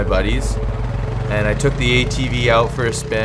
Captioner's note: engine roaring